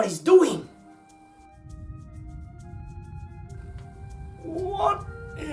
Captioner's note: Droneship humming